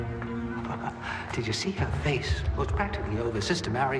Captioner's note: chuckles